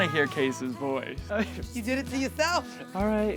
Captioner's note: giggles